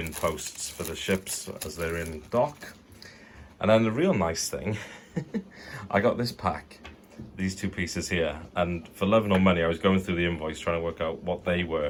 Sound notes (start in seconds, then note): 4.8 giggles